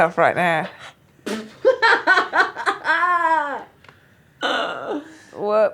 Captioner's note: laughing